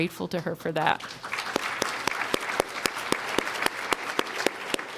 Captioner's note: applause